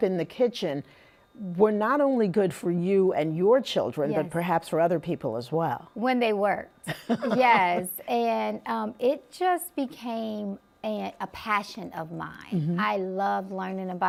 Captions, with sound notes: that you were cooking up in the kitchen were not only good for you and your children, but perhaps for other people as well? -When they worked. Yes. -[laughs] And, um, it just became a passion of mine. -Mm-hmm. -I love learning